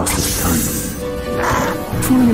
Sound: squawk

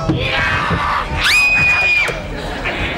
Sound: screaming

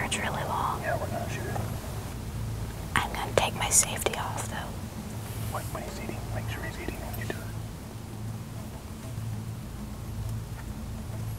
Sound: whispering; whispering

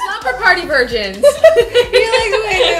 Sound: laughter

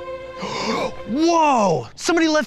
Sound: gasps

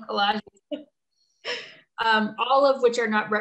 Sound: laughing softly

